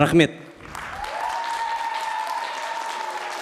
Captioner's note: applause